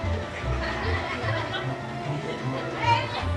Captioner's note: laughing; upbeat orchestral music